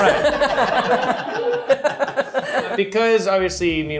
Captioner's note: group laughs